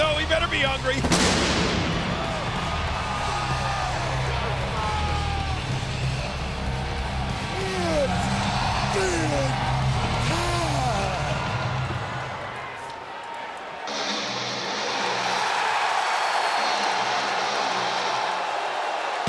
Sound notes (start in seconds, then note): 0.0 upbeat music continues; 1.0 fireworks exploding; 2.1 audience cheering; 3.6 upbeat music continues; 13.7 audience cheering; 13.7 upbeat music